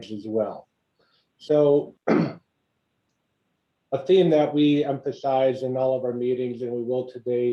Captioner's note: cough